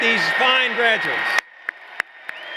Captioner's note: applause